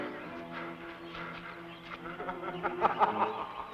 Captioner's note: panting; Michael laughing